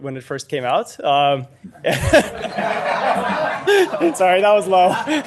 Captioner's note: group laughing